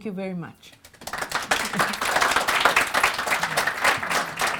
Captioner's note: audience applauding